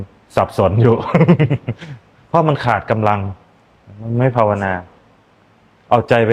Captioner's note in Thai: เสียงหัวเราะ